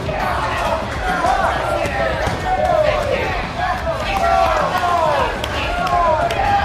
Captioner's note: crowd starts to get upset and yells in disbelieve